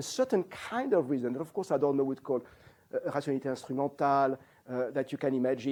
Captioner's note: non-english